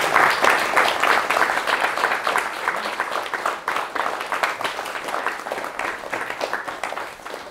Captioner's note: applause